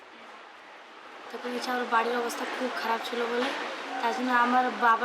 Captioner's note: speaking Indian language